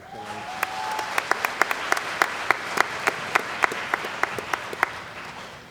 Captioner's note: cheering & Applause